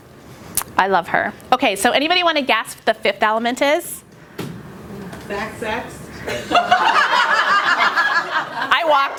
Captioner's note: laughter